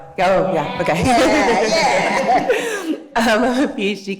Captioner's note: laughing